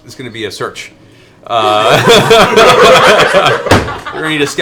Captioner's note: laughter